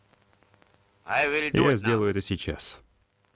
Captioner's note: chuckle